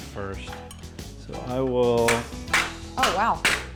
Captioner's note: banging